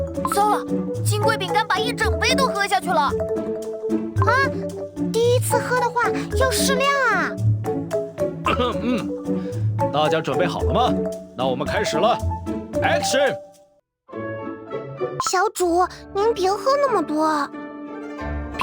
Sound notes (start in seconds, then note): 8.4 cough cough